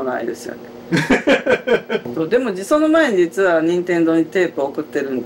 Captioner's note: laughter